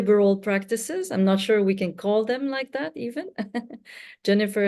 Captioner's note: chuckles